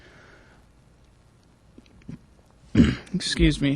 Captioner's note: clearing throat